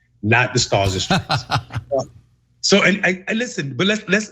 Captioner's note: laugh